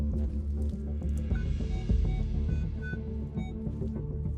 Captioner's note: beeping